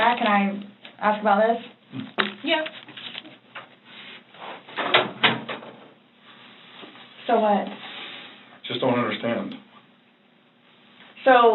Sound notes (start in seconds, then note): 4.8 door clicks shut